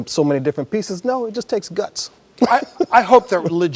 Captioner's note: laughs